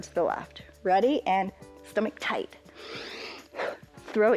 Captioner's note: inhales and exhales